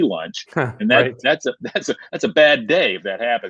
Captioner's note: laughing